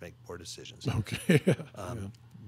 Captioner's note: laughing